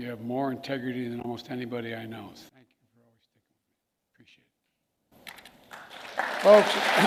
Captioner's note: applause